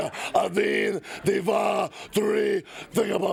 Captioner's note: speaks Russian